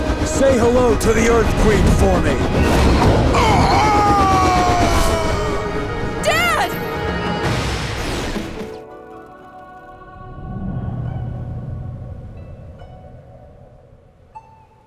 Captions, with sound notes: Say hello to the Earth Queen for me. [groaning] Dad!